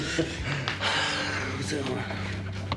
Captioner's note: Harvey chuckling; Joe sighing; Joe mumbling